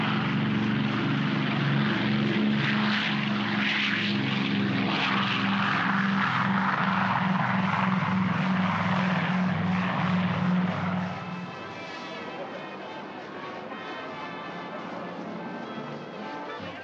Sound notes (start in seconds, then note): 0.0 aircraft rumbles down runway; 2.8 aircraft rumbles; 11.2 music heard faintly